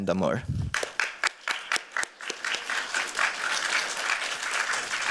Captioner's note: applause